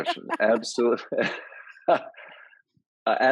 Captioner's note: laugh